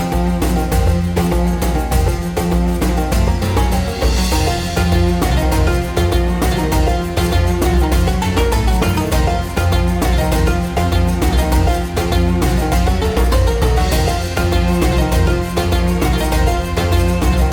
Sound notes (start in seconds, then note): none